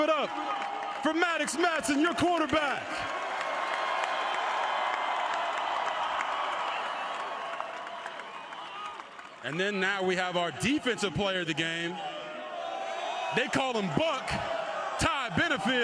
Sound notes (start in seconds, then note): 8.3 cheers; 15.0 applause